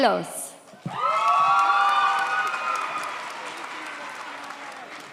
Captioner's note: audience cheers